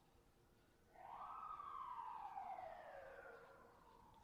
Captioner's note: sirens wailing